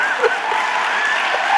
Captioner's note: audience laughing